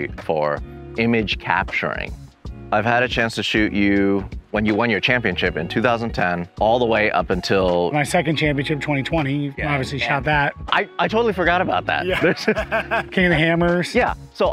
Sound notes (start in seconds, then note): 11.7 laughing